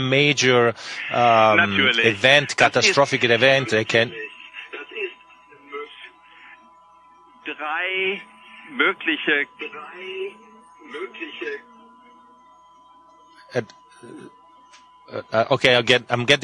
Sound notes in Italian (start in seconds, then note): 7.7 audio disturbato